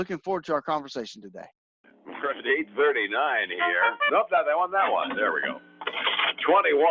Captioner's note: cash drawer noise